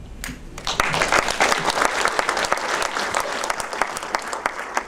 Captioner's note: audience applauds